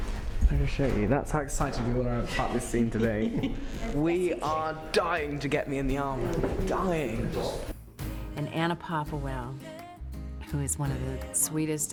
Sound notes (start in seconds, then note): 2.3 laughing